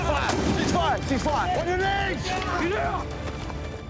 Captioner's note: soldiers shouting